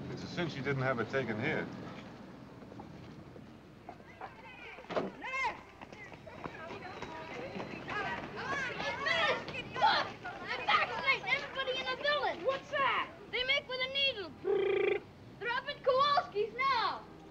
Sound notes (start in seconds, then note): 4.2 people chattering; 14.4 lips buzzing